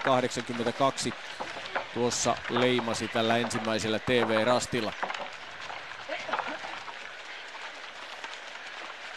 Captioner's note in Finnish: Aplodeja